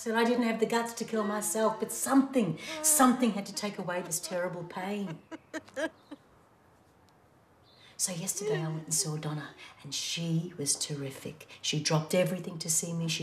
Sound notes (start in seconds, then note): 5.0 crying